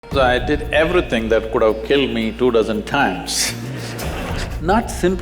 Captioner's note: laughter